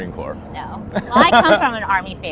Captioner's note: laughing